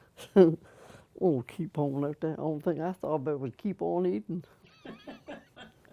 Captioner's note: laughter